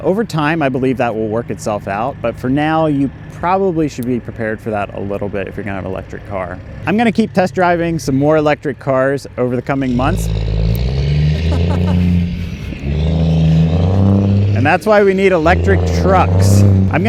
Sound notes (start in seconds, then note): 10.3 truck engine revs; 11.3 laughs